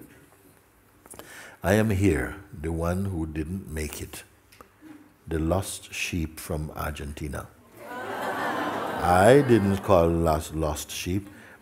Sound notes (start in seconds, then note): 7.8 laughter